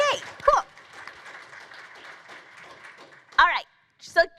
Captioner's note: applause